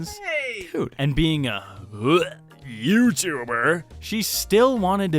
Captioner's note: gag